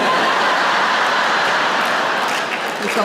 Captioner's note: laughter